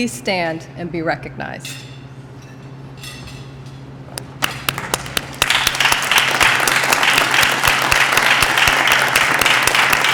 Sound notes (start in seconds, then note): 4.4 applause